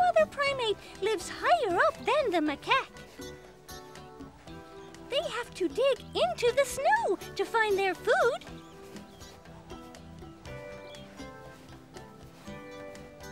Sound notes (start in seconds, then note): none